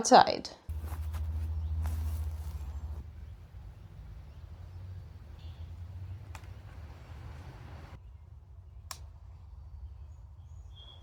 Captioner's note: birds singing quietly